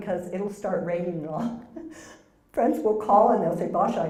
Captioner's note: laugh